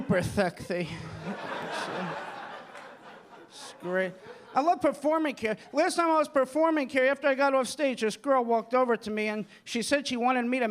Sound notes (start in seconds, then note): 2.6 audience laughing